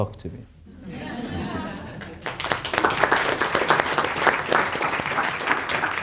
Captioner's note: group laughs and applauds